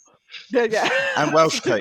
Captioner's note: laughs